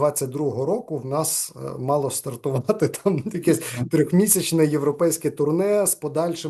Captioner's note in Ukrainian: сміється